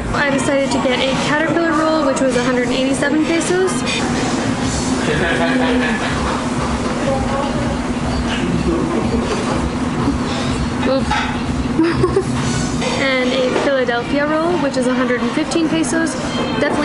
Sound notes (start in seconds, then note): 11.7 laughing